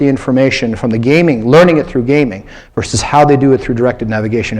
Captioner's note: none